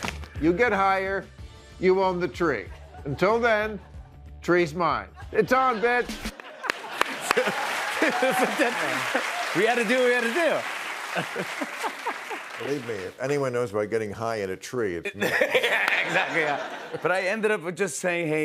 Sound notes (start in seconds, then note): 6.7 laughter